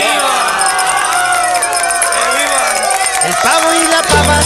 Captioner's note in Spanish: Aplausos